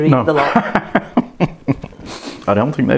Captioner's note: laughs